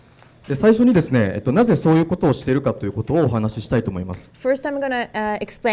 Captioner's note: speaking foreign language